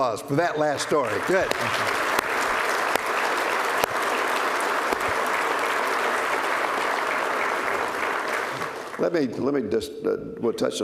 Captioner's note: applause